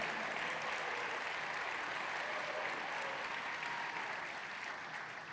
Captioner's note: audience applauding